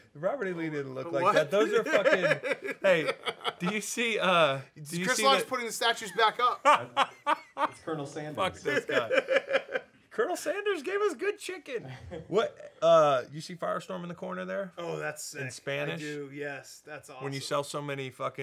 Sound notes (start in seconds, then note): 1.2 Dan laughing; 6.0 laughing; 8.6 Dan laughing